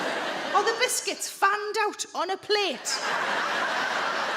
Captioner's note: crowd laughs